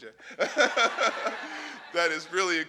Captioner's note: laughing